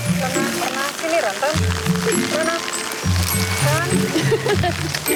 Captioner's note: light playful music; in foreign language; playful music; women laughing